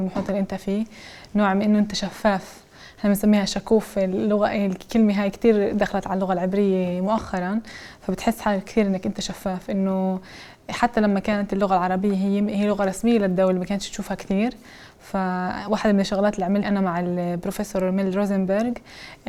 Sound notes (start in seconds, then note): 4.0 in Hebrew